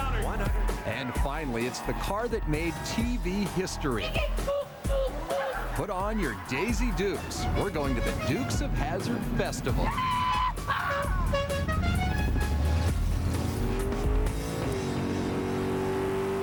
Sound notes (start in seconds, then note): 3.6 grunting; 11.0 horn honks